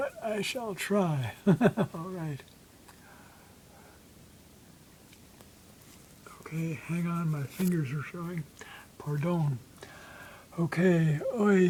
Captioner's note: laughs